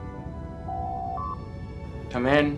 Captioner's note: door Chime